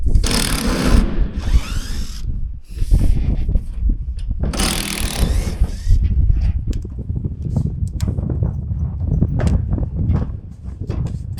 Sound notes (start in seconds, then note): 0.1 drill whirring; 4.9 wind blowing